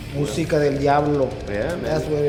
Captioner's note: speaks in Spanish